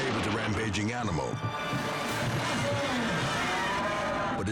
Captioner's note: bull bellows